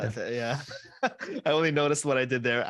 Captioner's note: laughter